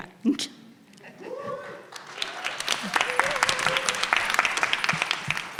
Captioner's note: audience cheering